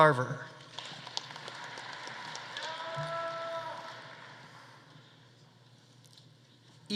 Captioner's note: audience applauding; audience cheering